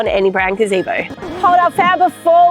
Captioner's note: tape rewinds